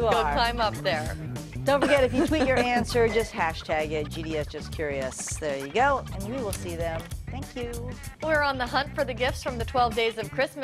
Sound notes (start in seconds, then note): 4.5 laughter